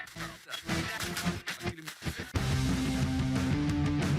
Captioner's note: music scratching; upbeat music